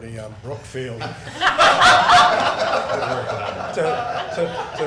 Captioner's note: crowd laughing